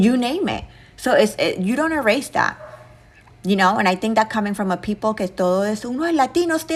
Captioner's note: speaking Spanish